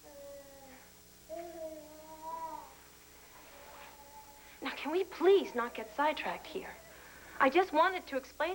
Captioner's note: river coos